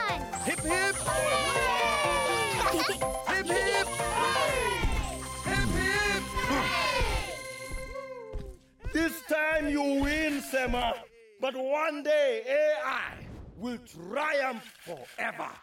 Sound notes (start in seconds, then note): 1.9 laughter; 6.9 Tobor grunts